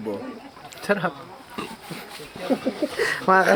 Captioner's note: giggles